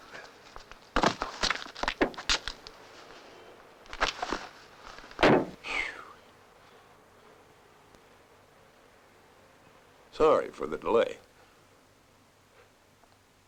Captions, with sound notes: [BODY THUDS] [SIGHS] Sorry for the delay.